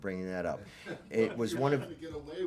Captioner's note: laughter